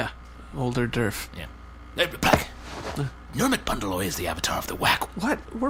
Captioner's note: fabric rustling